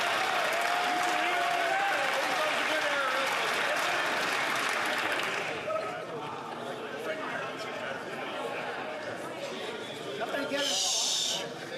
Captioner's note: some Applause